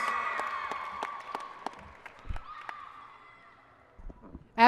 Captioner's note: applause and cheering